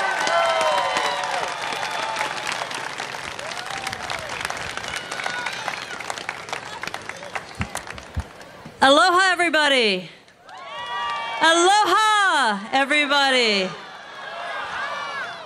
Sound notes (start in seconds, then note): 0.0 applause